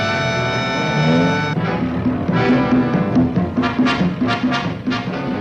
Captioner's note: car engine revving